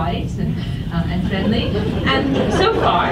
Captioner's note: audience laughs